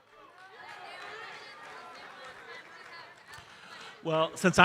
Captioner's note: audience chattering